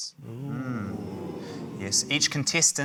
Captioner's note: audience 'ooh's